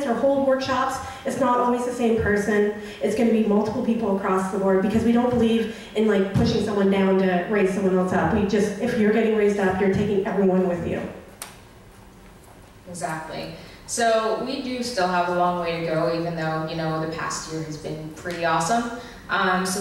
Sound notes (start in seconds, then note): 13.3 voiceover